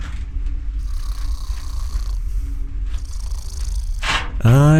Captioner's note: snoring